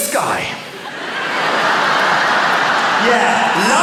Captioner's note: laughter